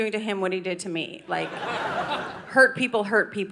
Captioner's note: audience laughing